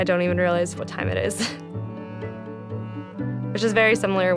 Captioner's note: laughs